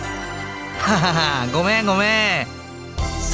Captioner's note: laugh